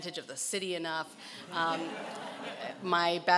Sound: laughing

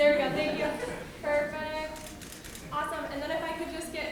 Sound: room laughs

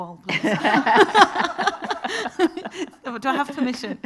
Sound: everyone laughing

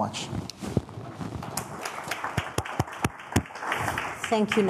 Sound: attendees applauding

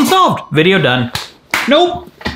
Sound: hands clap

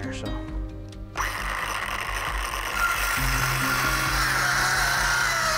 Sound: circular saw cutting

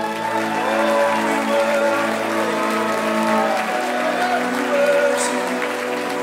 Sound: audience applauding

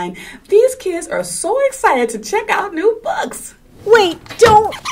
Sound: sound of file cabinet opening

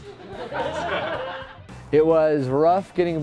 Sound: crowd laughing

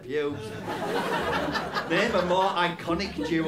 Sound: laughter

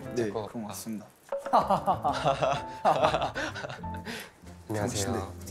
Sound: tries to ease up with awkward laughter

